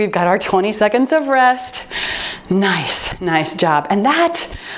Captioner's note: timer beeps